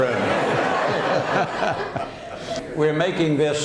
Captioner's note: laughter